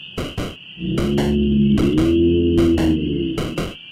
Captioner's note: bellowing